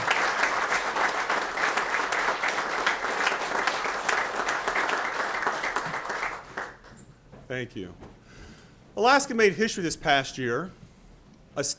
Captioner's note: applause